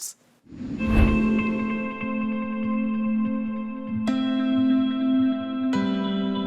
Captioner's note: graphics whoosh; soft ethereal music